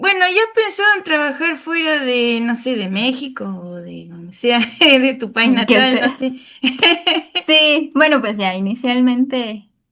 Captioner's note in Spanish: risas